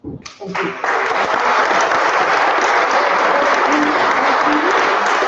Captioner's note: applause